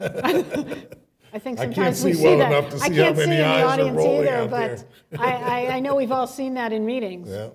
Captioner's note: laughter